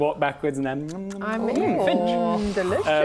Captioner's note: nom nom nom nom